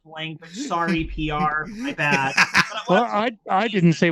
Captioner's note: laughing